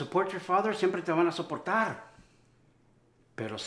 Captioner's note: Spanish